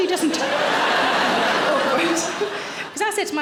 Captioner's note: audience laughing